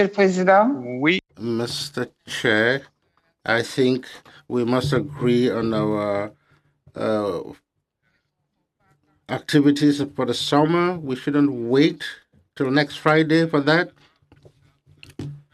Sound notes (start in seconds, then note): 6.4 speaking French